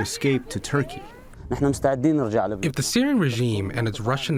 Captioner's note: through translator